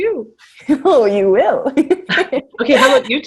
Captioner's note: laughter